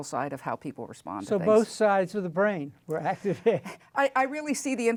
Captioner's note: laughs